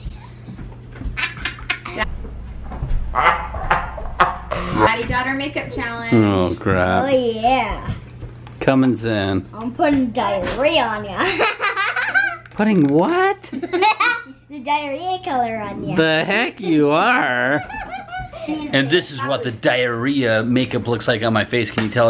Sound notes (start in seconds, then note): 11.2 laughing